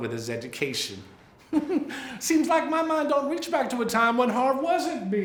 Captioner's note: laughs